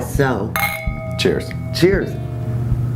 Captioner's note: glasses clink